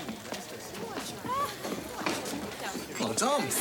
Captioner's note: people chattering